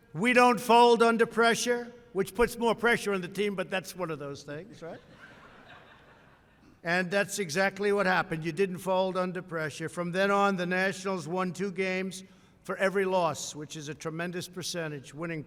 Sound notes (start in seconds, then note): 4.8 laughter